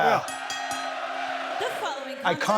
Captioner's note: bell dings